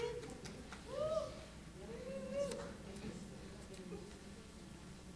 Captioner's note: audience cheering